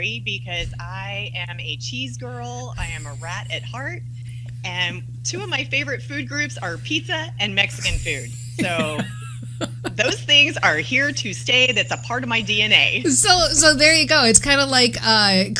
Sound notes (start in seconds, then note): 7.8 laughter